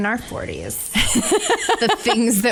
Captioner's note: laughs